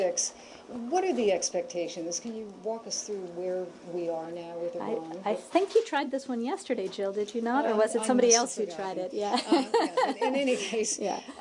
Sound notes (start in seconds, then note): 9.3 laughter